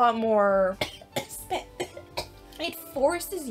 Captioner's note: coughing